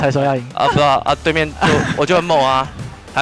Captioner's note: laughs